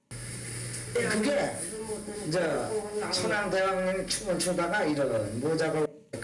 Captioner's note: speaking in a foreign language